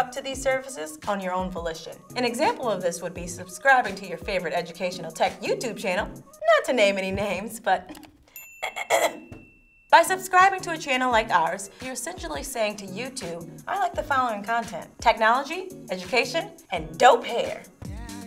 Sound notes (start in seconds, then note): 8.3 bell dings; 8.6 clears throat